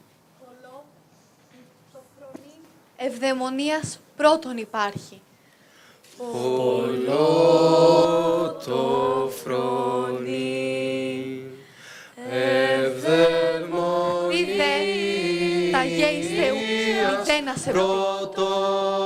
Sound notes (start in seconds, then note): 5.7 chanting: “Wisdom is provided…”